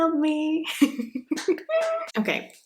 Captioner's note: clapping